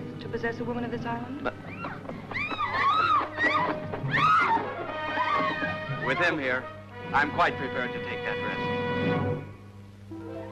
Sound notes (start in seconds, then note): 1.6 women screaming